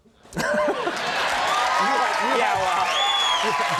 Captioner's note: audience cheering